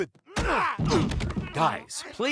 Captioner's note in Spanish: Brian y Stewie gimen